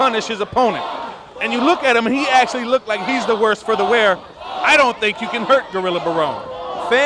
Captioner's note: fans chant BALLS